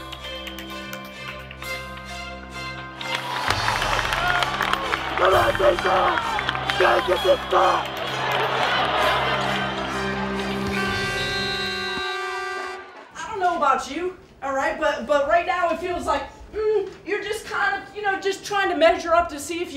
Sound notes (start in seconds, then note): 5.5 yelling; 10.6 buzzer